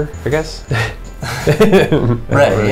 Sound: laughter

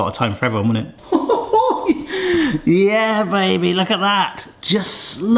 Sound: chortles

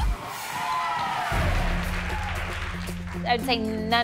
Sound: all cheering and applauding

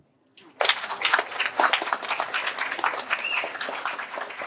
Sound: applause

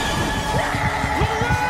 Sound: screams

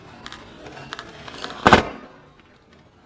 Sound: crunch; pop

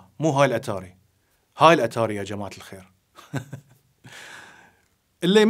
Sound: laugh

